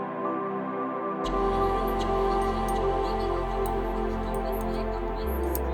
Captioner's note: brush clinking against glass ASSMUR